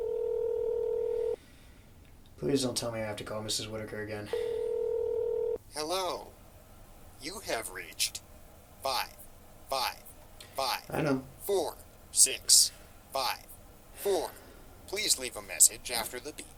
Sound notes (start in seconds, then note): 5.3 voice Message; 11.8 voice Message